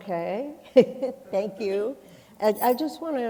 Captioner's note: chuckles